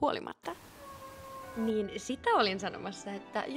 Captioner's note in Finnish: miau